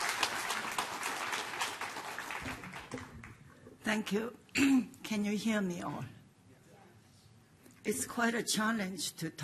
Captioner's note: applause